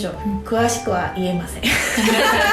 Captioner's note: laugh